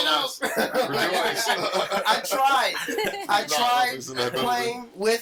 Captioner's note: all laughing